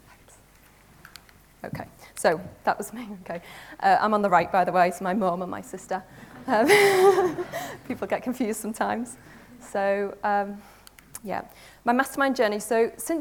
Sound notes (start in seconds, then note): 6.1 audience laughs; 6.3 laughs